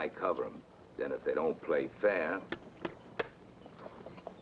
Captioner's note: hand taps